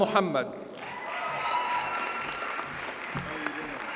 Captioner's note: audience cheers and applauds